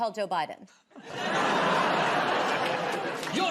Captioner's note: laughter